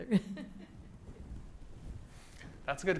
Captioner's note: laughs